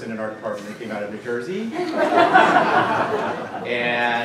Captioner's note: laughter